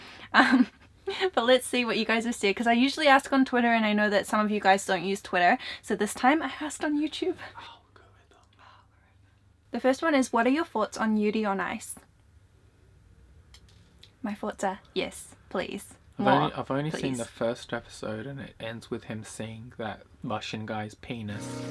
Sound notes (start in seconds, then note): 0.6 laughs; 7.9 whispers